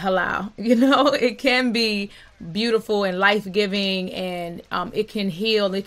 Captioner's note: chuckling